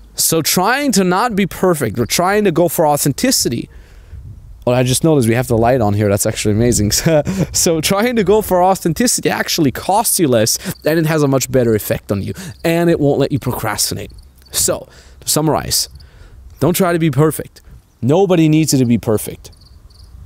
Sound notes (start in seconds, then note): 6.9 chuckles